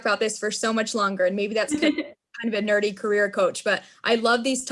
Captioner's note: laughter